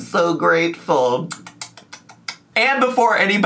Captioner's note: smacks lips